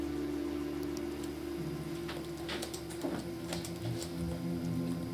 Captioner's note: computer sounds